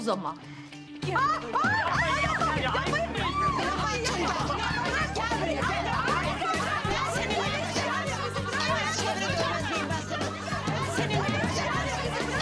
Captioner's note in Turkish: Bağırışıyorlar